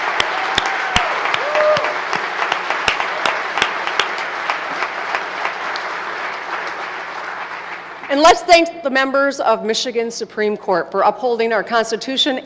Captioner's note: applause